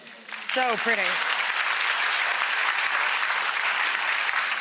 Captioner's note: audience applause